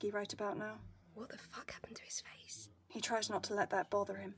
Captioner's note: whispering